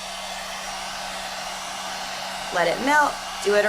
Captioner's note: whirring